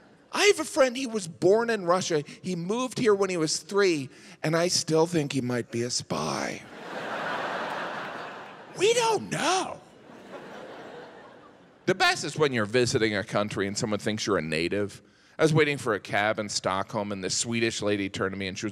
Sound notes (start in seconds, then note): 6.6 audience laughs; 10.0 audience chuckles